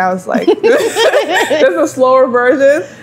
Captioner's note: both laugh